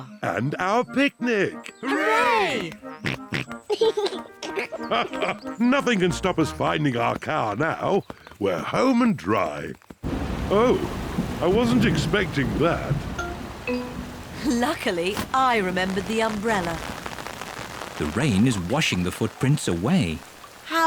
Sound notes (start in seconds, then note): 3.0 snorts and giggles; 6.1 laughs